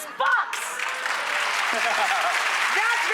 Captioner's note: clapping and laughing